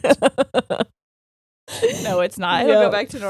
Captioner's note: both laughing